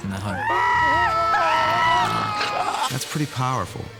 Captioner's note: dursleys screaming